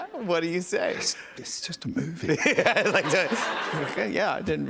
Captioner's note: laughs